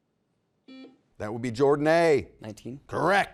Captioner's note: buzzer beeps